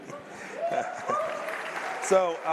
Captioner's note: applause